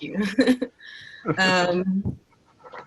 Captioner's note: chuckles